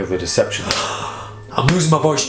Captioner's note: gasps